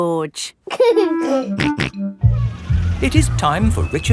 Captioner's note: giggling and snorting